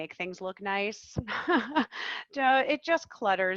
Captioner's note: laughing